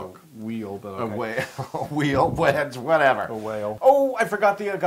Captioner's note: laugh